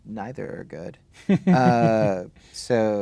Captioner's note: chuckling